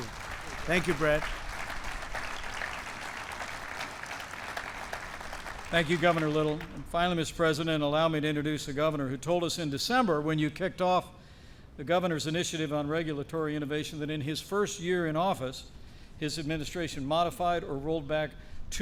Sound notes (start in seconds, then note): 2.7 applause